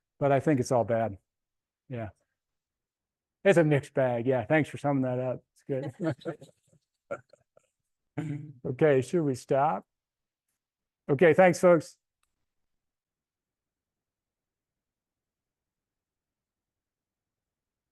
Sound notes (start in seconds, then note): 5.7 laughs